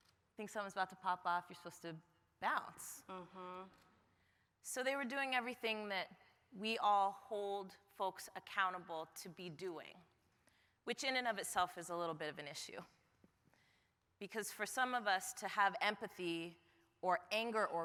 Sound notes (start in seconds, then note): none